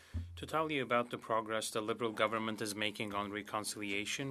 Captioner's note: speaking French